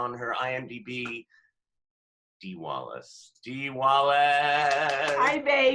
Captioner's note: applause